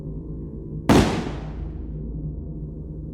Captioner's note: gun fires